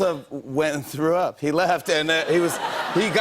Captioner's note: laughter